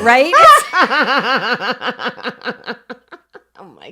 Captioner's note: both laugh